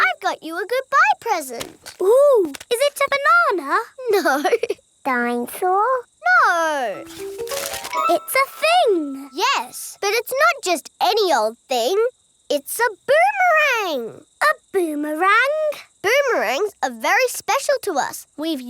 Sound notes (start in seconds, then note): 4.3 laughing